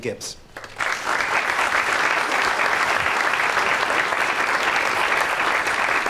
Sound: applause

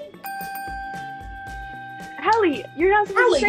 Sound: chiming sound

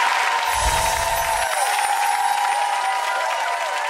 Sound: audience applauds; magical sounds

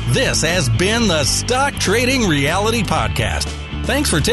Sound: voiceover

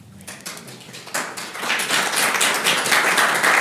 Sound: applauds

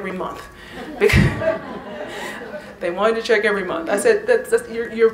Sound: laughter

